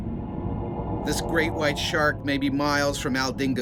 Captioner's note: voiceover